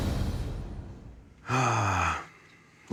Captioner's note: sighs